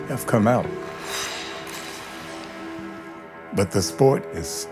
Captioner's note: skates scraping ice